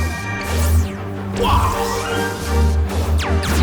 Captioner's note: light sabers hissing; grunts; light saber hissing; phasers firing